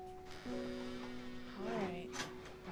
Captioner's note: door squeaking shut